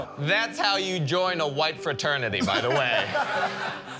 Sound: laughter

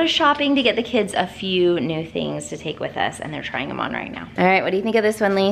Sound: none

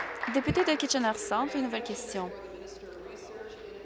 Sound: applause

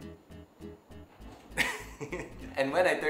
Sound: chuckles

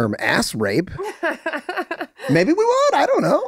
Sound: laughing

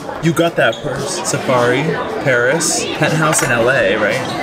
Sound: diners murmuring

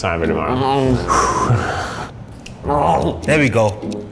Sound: sighs; groaning in pain

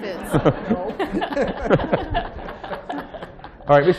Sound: laughter

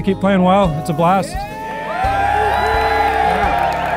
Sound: crowd cheering

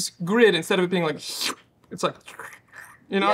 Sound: mouth slurping

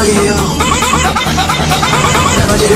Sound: series of borks

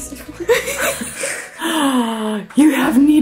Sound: laughs

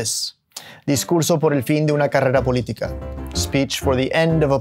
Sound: speaking Spanish

